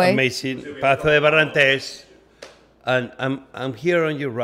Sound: speaking in a foreign language

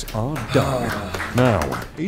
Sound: sighing and clapping

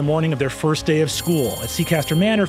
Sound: bell rings

